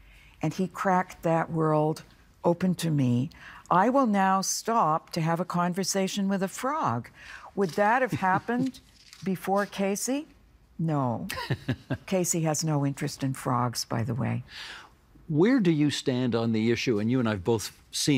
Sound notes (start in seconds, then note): 11.3 laughing